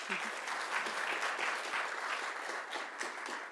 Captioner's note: applause